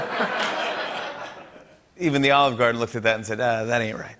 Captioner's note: laughter and applause; normal voice